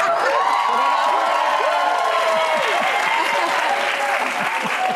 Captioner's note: audience cheering